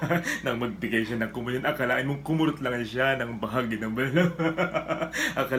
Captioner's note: laughs